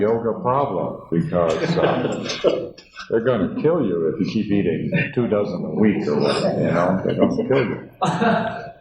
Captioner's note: laughter